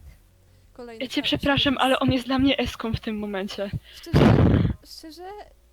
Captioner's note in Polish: Horny sigh